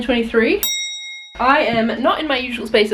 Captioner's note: bell dings